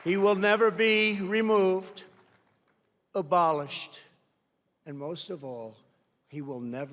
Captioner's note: applause